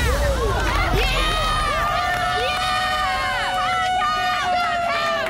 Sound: on-lookers cheering

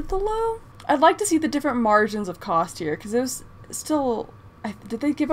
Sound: none

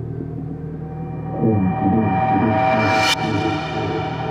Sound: muddled echo voice

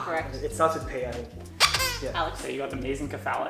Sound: squeaks

